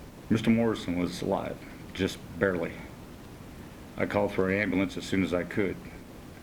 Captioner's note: none